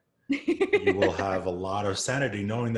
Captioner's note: laughs